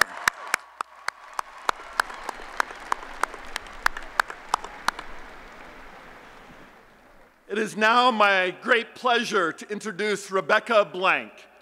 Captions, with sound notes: [ Applause and Cheering ] It is now my great pleasure to introduce Rebecca Blank,